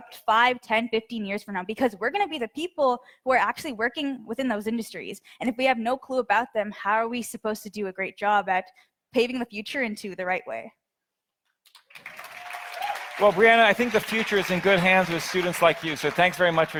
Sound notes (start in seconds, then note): 11.8 audience applauds